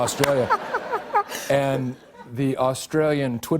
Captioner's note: normal voice